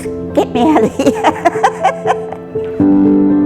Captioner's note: laughs